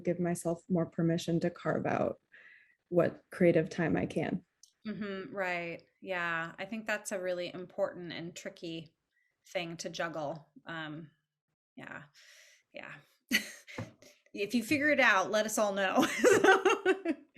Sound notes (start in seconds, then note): 13.2 chuckles; 16.7 laughs